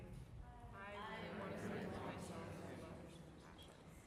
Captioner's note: group murmurs